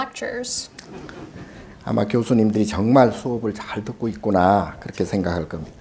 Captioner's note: speaking Korean